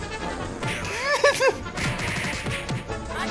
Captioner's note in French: Musique de cirque; gloussement nerveux; Musique de cirque